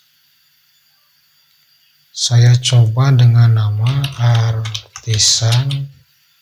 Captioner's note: clap